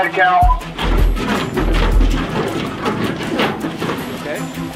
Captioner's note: metal jostling